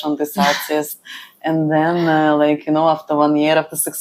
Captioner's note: laughs